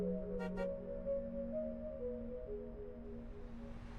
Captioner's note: car honking